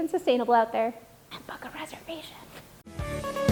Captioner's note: whispering; upbeat music